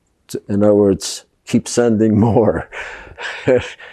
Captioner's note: laughing